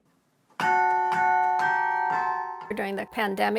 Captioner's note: bells ringing